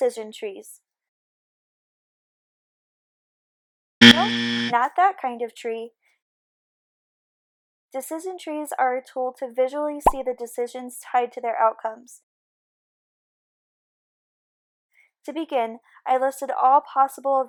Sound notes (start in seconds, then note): 4.0 buzzer